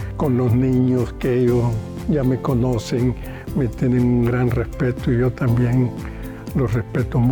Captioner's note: continues speaking in foreign language